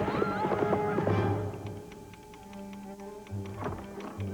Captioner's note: telegraph key clicking